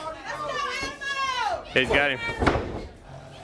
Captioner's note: crowd chatter